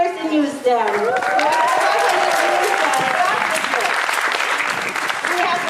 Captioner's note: audience applauding